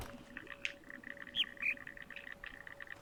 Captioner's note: bird chirps high-low